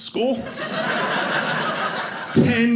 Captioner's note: audience laughing